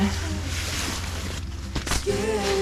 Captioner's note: rustling about